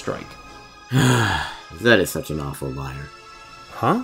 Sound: sigh

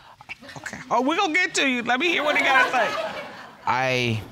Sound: whispers

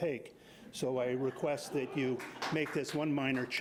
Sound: audience laughing

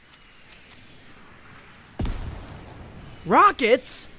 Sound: loud boom

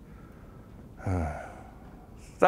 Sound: sighing

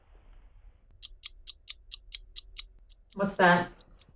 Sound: clock starts ticking slowly

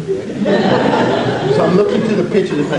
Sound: audience laughs

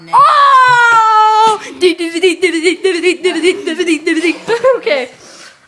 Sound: chanting

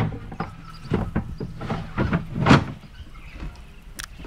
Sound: birds chirping

